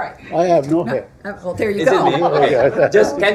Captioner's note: laughter